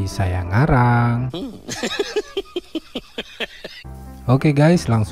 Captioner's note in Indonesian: singa tertawa